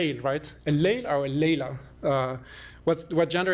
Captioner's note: non-english